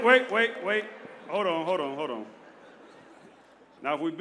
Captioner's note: laughter